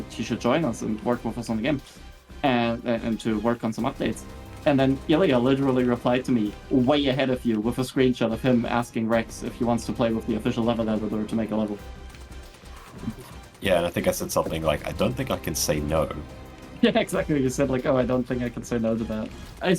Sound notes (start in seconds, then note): 12.1 sounds of impress